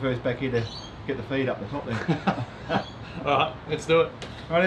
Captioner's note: laughing